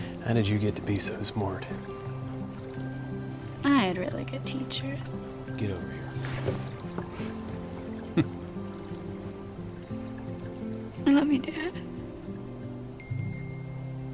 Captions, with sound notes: HOW DID YOU GET TO BE SO SMART? I HAD REALLY GOOD TEACHERS. GET OVER HERE. HMPH! [TEARFULLY] I LOVE YOU, DAD.